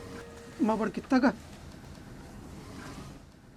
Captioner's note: speaking in a foreign language